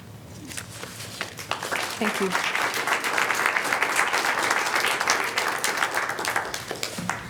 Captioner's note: applause